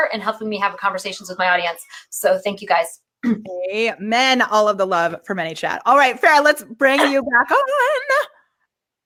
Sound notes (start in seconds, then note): 3.0 clears throat